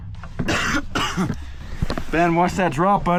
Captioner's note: coughs